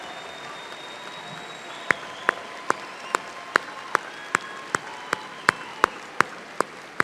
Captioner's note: applause